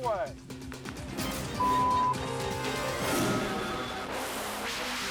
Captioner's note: beep